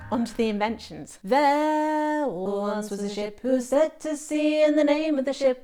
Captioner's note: layered voices start; sings